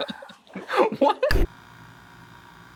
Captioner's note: laughs